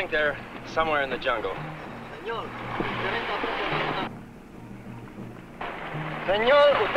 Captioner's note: man speaking in Spanish